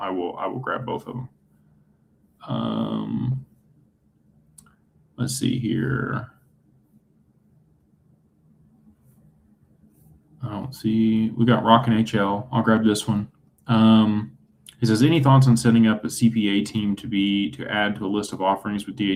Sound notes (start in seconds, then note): none